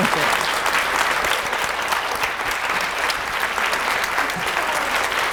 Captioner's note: audience applauds